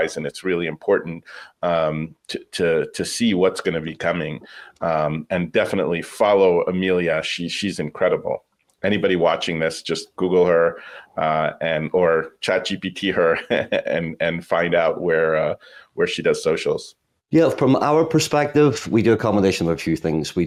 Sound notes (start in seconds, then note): 13.2 laughs